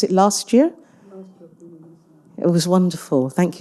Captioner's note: faintly speaking